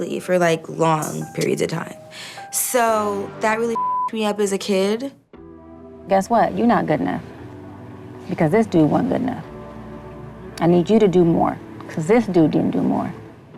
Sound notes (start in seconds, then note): 3.7 beep